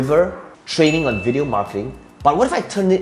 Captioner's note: bell dinging